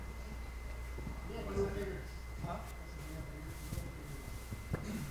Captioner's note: light chatter